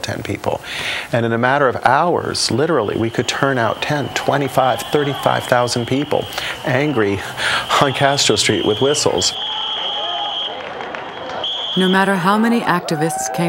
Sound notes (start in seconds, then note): 7.3 whistles blaring